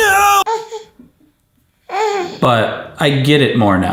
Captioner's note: baby grunts